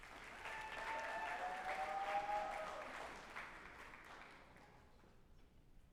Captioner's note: group applauding and cheering